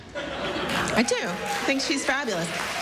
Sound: laughter

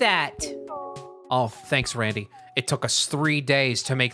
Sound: dude from Spongebob voice

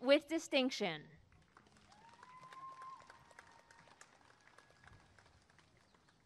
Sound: applause and cheering

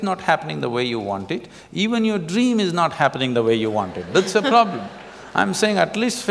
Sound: laughter

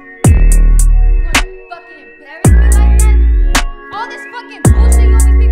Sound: arguing

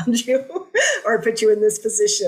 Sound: laughter

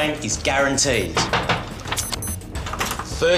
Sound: door knocks

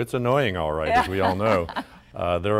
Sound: laughter

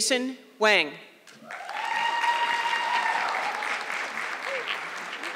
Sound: audience clapping

